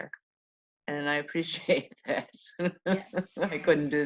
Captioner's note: laughs